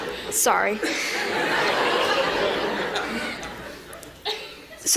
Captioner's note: laughter